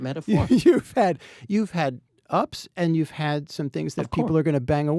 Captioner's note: laughs